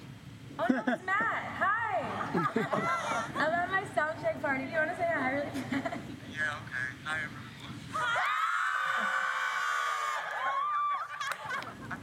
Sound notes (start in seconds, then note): 7.9 audience scream